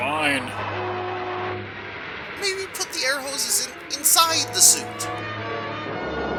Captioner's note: air escaping